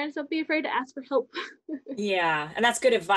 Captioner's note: chuckles